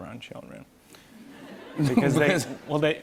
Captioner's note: light laughter